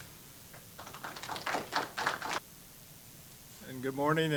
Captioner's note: applause